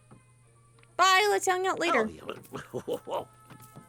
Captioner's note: Scrooge Grumbles